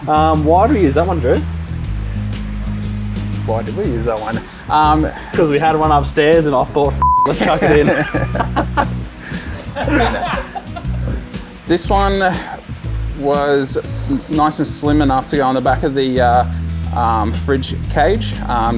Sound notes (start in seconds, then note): 7.0 beep; 7.2 everybody laughs